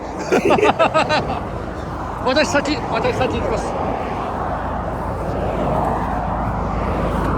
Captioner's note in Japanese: 笑い